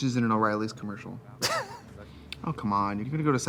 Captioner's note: Katya laughs